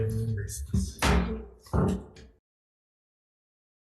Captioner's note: gavel bangs